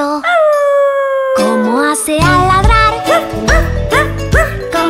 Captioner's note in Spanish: Aullido; Ladrido